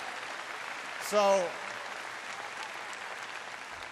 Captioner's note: applause